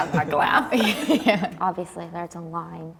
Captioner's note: laughs